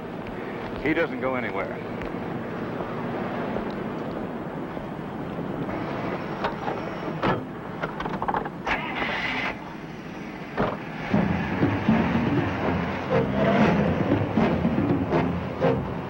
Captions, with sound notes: - He doesn't go anywhere. (car sputters and starts) (suspenseful music)